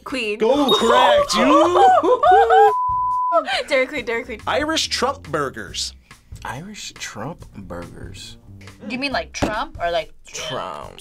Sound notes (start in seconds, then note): 0.8 laughs; 1.3 both laugh